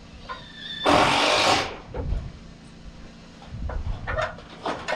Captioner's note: drill runs